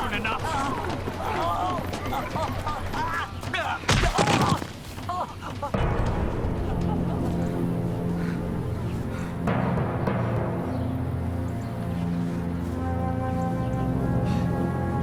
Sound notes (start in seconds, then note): 0.8 grunting; 3.9 thud; 6.3 dramatic orchestral music